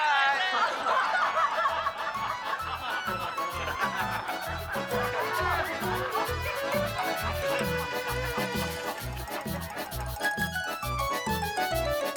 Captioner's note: laughter